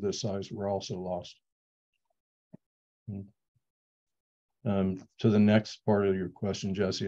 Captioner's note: pause